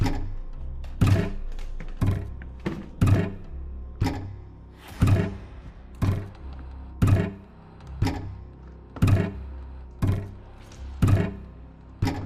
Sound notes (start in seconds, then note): 4.9 object thudding rhythmically; 4.9 soft tense music